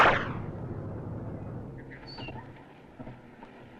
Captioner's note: air whooshes